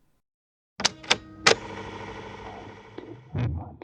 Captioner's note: audio cassette noises